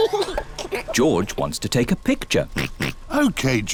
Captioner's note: giggles; oinks